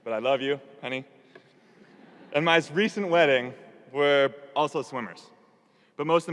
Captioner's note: audience laughing